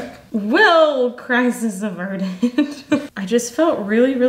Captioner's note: laughs